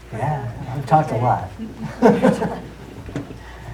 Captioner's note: laughs